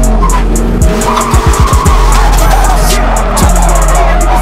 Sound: rev limiter; tires squealing

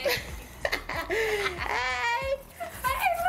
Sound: Peaches laughing

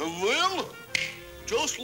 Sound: snap!

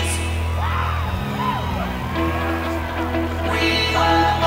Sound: audience cheering

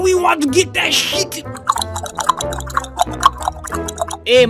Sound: Uganda Knuckles clopping call

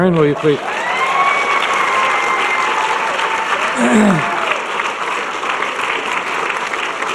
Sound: audience clapping and cheering

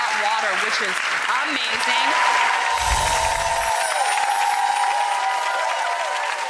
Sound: audience appluading

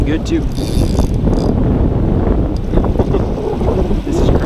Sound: fishing line straining

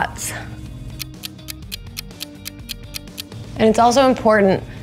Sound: clock ticking

